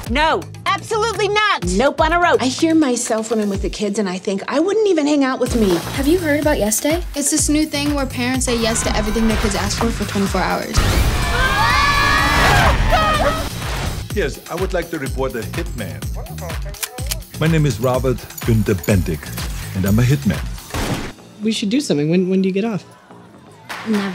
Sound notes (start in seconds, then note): 11.1 kids yelling